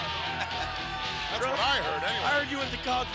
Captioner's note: laughs